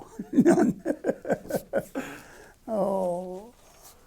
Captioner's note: laughing